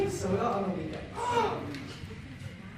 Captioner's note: impressed gasp